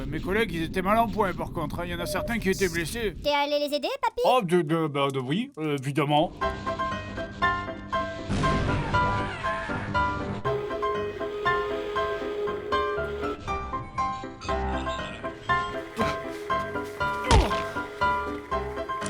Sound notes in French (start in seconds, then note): 6.4 musique de fond; 10.7 musique de fond; 14.2 gémissements; 17.3 paf